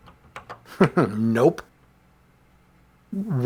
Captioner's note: chuckles